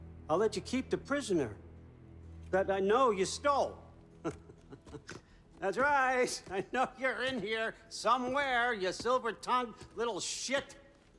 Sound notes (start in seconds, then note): 4.2 laughs